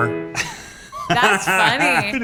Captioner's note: laughs